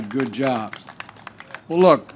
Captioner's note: applause